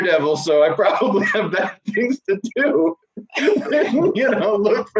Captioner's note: laughing